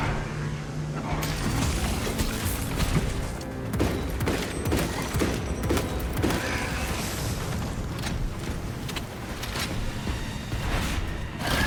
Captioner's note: gunshots